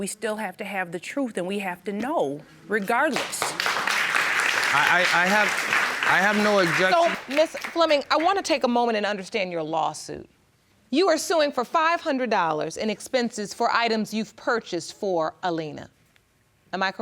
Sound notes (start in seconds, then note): 3.0 audience applauding